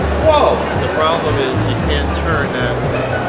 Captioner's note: male Voice